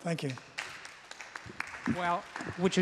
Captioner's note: applause